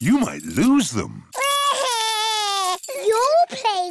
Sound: crying

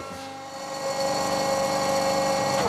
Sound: loud whirring

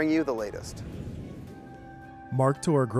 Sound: calming music; air whooshing

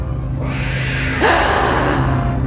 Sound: grunts

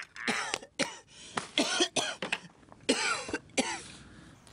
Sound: coughing

